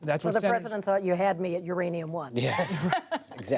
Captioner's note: laughter